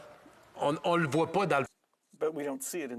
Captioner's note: speaking in French